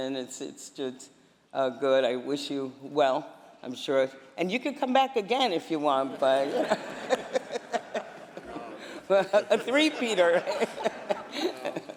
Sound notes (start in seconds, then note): 4.6 laughter